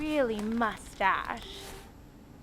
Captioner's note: chair creaks